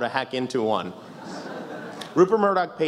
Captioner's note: laughs